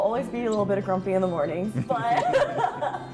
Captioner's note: laughs